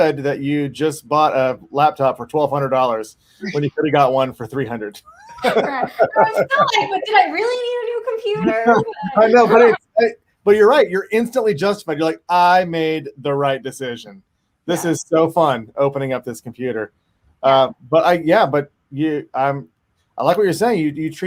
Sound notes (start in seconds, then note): 5.1 panelists laugh; 6.4 faintly speaking